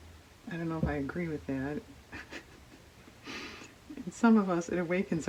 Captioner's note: laughs